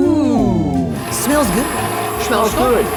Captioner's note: mixer whirling